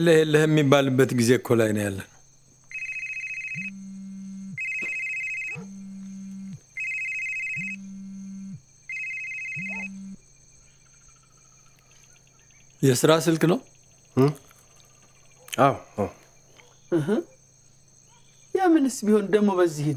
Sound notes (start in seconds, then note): 6.3 phone ringing